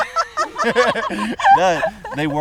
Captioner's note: group laughs